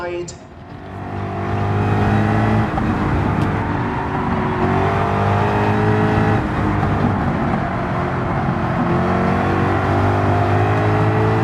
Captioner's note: engines revving, cars noises